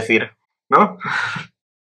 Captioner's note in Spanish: ríe